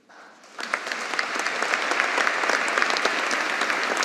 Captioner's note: audience applauding